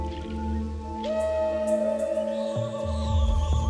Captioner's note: distant hooting